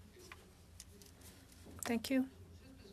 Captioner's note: speaking French